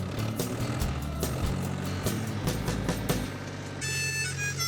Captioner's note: tractor revving; playing harmonica